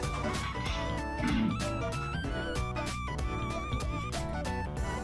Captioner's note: gulp